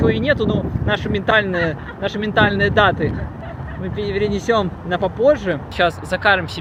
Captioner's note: laughs in the background